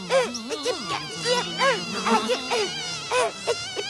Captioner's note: shoo’ing noises; buzzing